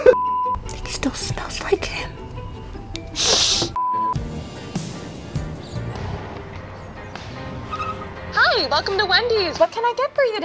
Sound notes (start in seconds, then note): 3.0 sniffs; 4.4 tire screeching; 5.2 upbeat music